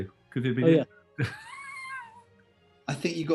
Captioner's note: sniggering